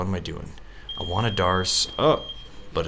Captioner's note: beep